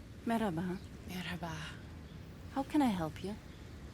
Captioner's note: speaking in a foreign language